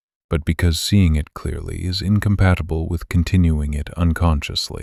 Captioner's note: low voice